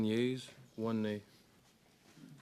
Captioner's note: speaking French